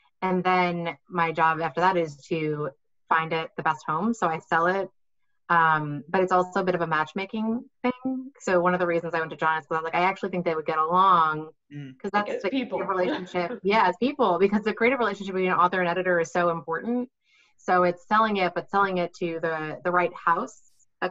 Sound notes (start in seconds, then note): 12.2 speaks faintly; 12.2 laughs